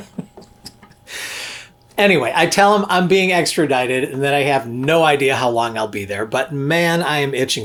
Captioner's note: laughs